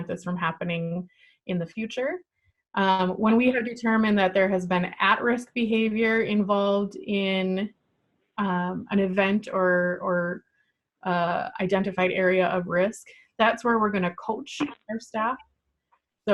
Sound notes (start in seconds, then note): none